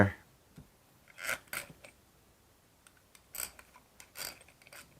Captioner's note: screws squeaking